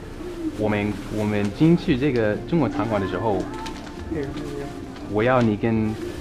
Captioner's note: mandarin